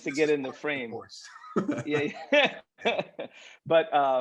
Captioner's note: laughs